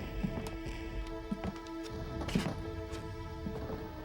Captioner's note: dramatic music; footsteps